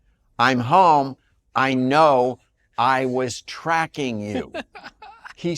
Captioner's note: laughs